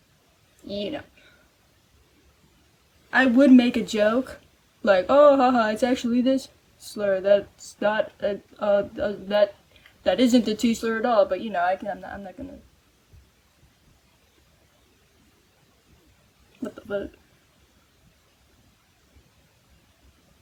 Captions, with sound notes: You know. I would make a joke like, "Oh, ha ha! It's actually this slur that's not *stammering* that- that isn't the t slur at all. But you know, I cannot- I'm no- I'm not gonna... What the f***?